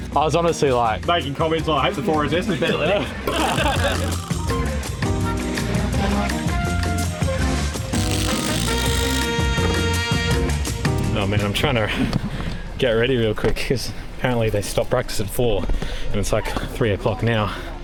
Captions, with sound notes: I was honestly like... Making comments, I hope the door is open. (laughing) (upbeat music) Oh man, I'm trying to get ready real quick because apparently they stopped practice at four and it's like three o'clock now.